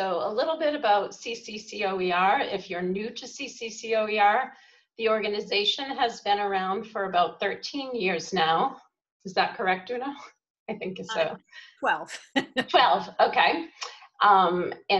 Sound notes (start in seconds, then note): 10.2 laughing